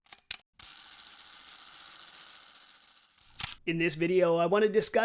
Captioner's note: camera clicking